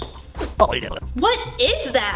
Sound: gibbering

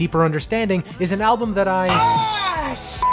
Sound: beep

